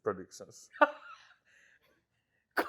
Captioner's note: chuckles